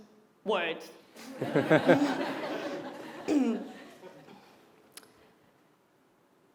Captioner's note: laugh; cough